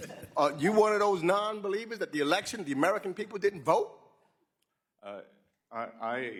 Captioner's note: laughter